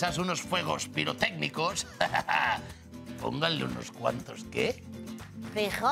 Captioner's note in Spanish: Ríe